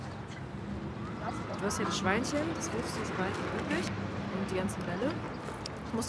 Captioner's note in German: leises Gespräch im Hintergrund